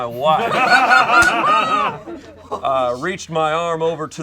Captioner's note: group laughs